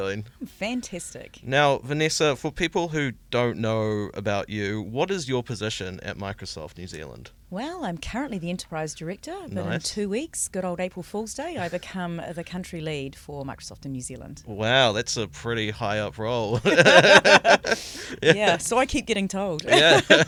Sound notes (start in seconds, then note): 16.5 laughter